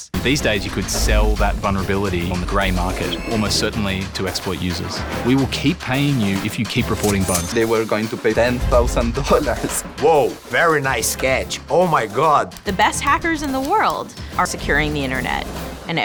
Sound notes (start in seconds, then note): 7.0 cash register sound